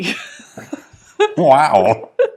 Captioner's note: laughing